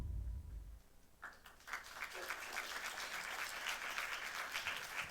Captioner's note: applause